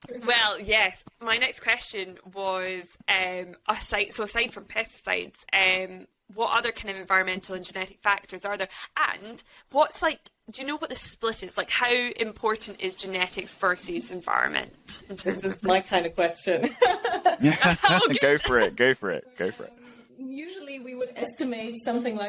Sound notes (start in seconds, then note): 16.8 laughs